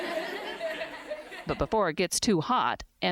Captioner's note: laughter